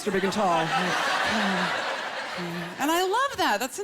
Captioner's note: laughter